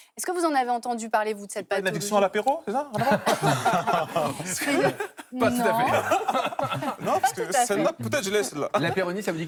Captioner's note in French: rires